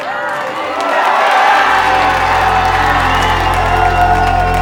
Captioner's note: chanting; cheering